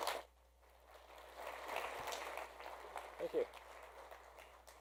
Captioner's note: audience applauding